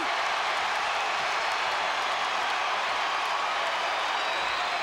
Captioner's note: crowd cheering